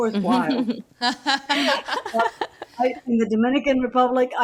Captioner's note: group laughing